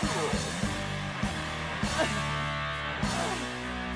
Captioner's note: crying